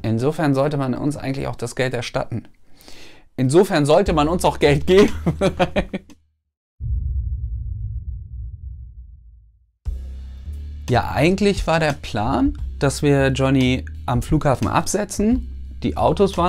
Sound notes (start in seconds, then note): 5.0 laughs